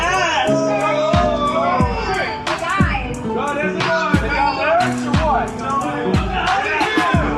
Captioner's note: crowd heckles mercilessly